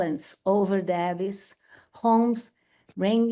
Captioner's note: speaks Portuguese